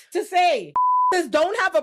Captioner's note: beep